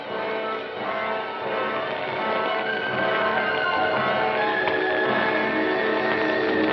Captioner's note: fire crackling